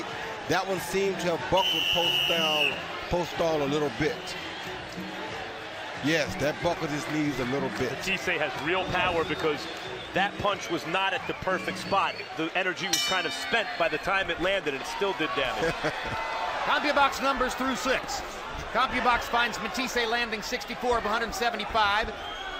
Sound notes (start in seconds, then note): 15.5 chuckles